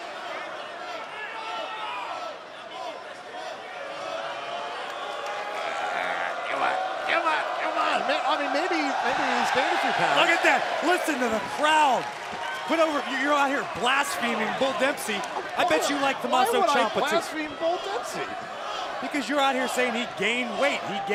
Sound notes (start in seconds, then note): 7.1 fans chanting; 9.9 cheers and applause